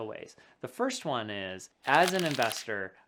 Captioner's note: paper rubbing